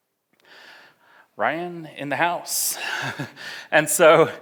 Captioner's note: laughs